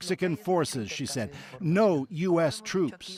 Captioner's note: speaking spanish